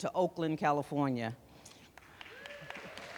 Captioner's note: applause